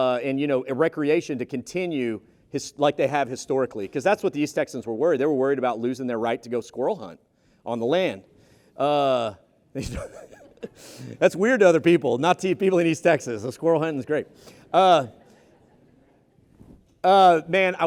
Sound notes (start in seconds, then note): 9.8 laughing